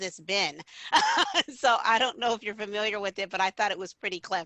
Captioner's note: laughter